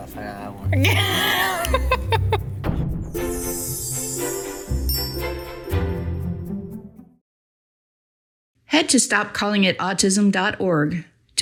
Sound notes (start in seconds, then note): 0.7 laughing; 3.3 bells chiming